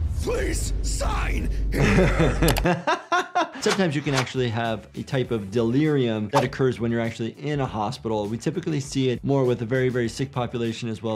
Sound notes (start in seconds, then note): 1.7 laughs